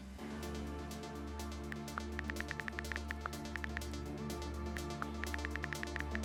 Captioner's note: energetic music; typing sounds